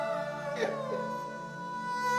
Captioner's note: crying